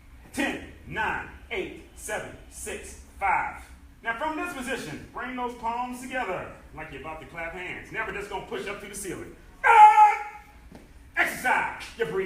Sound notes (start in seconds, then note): 9.6 enthusiastic shouting